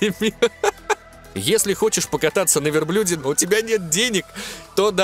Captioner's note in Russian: смеюсь